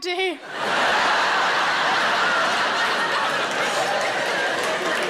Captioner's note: audience laughing